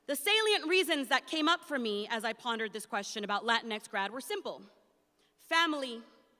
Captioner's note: none